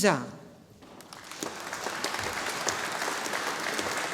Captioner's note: audience applauding